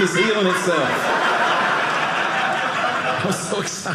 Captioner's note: audience laughing